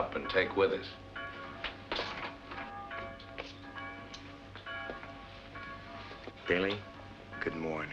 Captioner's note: church Bells